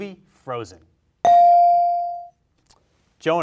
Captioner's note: bell rings